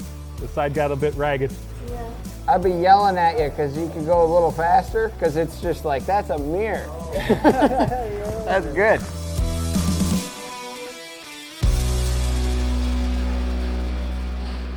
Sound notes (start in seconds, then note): 7.1 laughter